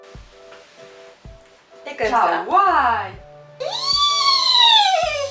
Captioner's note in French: Hennissement de licorne